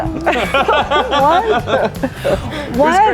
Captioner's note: group laughing